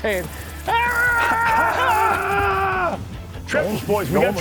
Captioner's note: anglers shouting